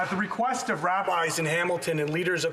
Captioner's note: some Applause